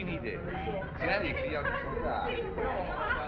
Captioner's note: chattering, Laughing